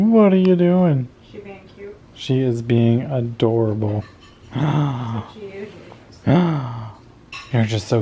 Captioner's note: gasp